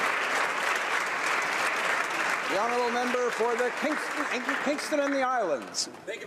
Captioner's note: applause